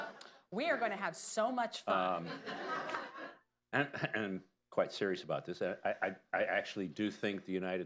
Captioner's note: laughter; laughter